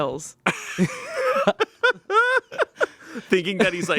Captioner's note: everyone laughs